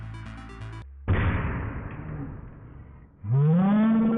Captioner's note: booooom